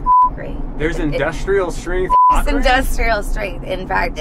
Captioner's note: beep; beep